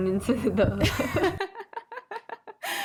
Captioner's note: laughs